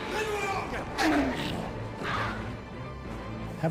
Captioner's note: goblins screeching